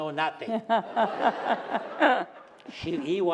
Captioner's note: laughter